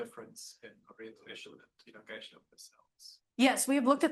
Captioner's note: audio blurs